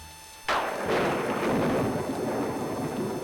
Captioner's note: thunder clap